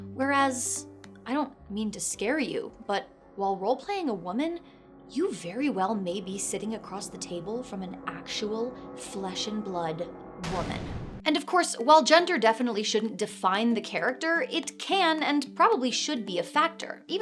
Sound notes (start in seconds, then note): 0.2 ominous music; 10.4 dramatic crash